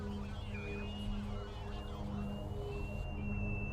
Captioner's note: piercing sound over radio